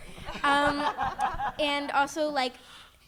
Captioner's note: audience laughing